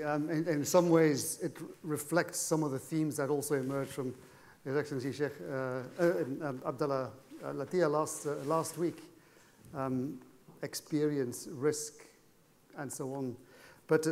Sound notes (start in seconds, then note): 7.2 speaking foreign language